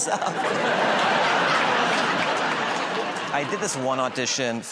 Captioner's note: laughter